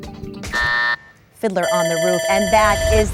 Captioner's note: bell ringing